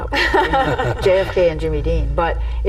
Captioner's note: chuckling